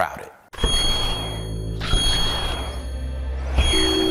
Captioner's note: logo chiming